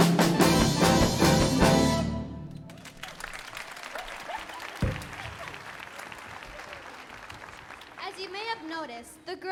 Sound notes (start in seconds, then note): 2.5 audience clapping; 4.2 laughter